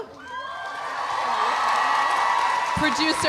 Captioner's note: audience cheering